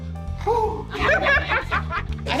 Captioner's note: everyone laughs